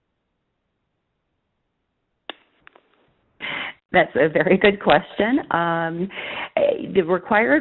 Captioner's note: laughs